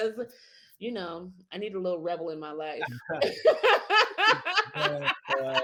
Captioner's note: laughs